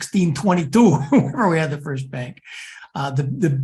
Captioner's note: laugh